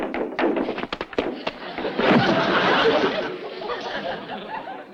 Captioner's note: Liz knocking; bed thumps; audience laughs